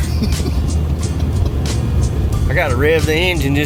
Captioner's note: laughs